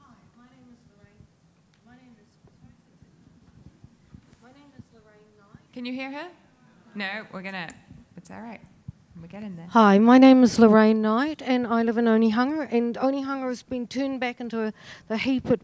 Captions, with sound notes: - Hi, my name is Lorraine. My name is... My name is Lorraine Knight-- - Can you hear her? (audience murmuring) No. We're going to, that's alright. We've got it now. - Hi , my name is Lorraine Knight and I live in Onehunga, and, anyhow, it's been turned back into the heap